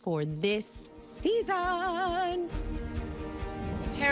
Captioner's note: singsongy